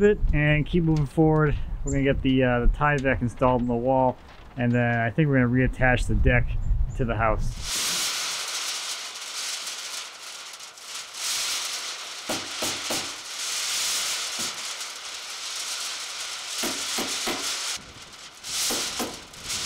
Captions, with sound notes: a little bit and keep moving forward. We're gonna get the tie-back installed in the wall. And then I think we're gonna reattach the deck to the house. (plastic sizzling loudly) (hammer banging loudly)